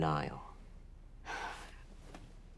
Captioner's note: sighs